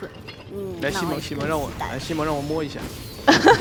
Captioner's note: laughs